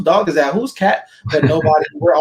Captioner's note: laughs